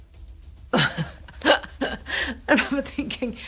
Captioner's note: chuckles